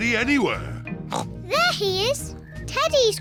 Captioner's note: oinks